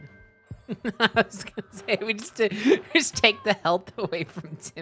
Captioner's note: laughing